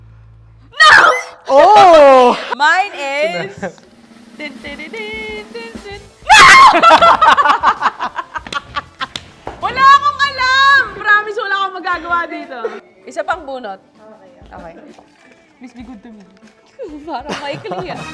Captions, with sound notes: - No! - Oh! - Mine is... (drum roll) No! (both laugh) I don't know this! Promise, I can't do anything about it. One more chance, please. Okay. Please be good to me. It seems short.